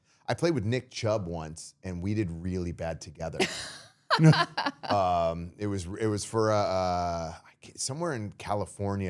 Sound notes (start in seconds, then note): 4.1 all laughing